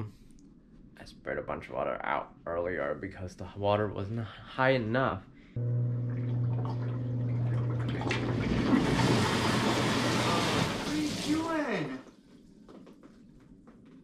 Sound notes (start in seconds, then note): 5.5 tub humming